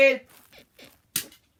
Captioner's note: bed squeaks